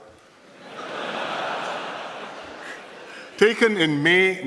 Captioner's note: laughter